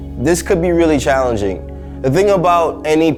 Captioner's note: none